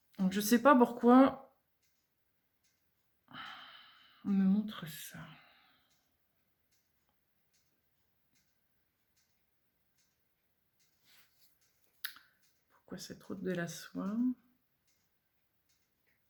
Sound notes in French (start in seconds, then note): 3.3 soupir